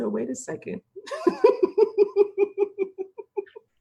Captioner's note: laughs